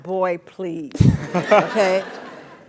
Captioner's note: laugh